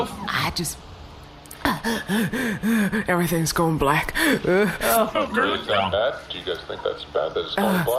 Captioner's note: gasping